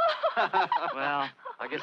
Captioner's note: all laughing